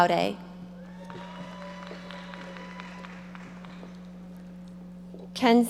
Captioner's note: audience applauding